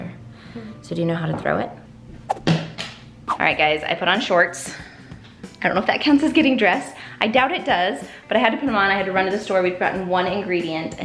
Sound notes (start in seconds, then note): 2.3 whooshes; 2.3 smacks